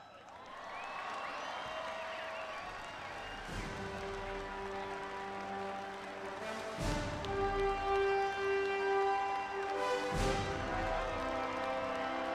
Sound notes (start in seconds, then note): 0.0 applause, Music